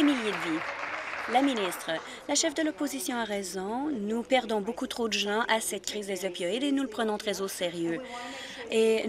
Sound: applause

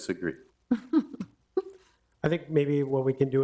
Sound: people laughing

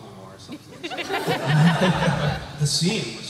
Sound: laughter

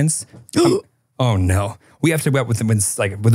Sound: gasps

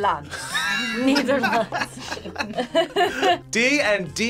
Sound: laughs

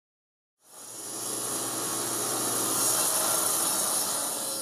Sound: machine whirring

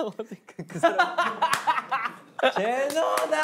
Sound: laughing

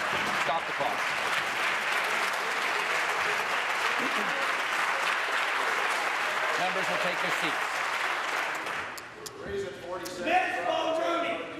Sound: applause

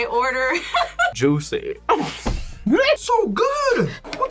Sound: laughs

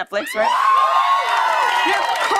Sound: cheers and applause

